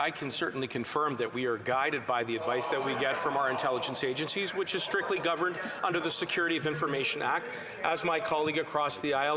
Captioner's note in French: voix de l'interprète